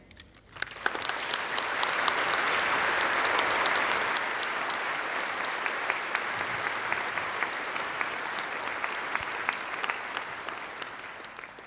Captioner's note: applause